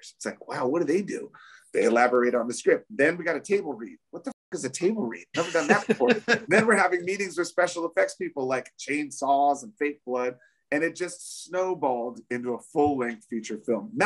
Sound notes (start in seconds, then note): 5.3 laughs